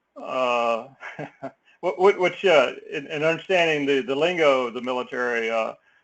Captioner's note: laugh